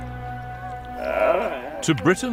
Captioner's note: monkey grunting